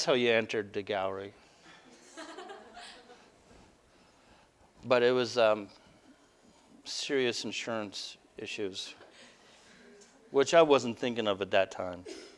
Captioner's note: audience: Laughter